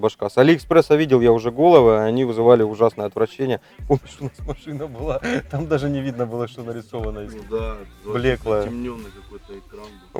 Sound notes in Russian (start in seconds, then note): 3.7 смеётся